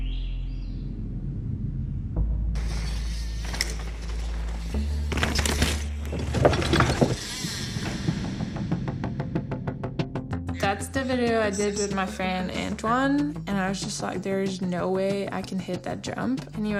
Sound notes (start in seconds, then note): 0.0 bird song; 2.6 sound of bike through woods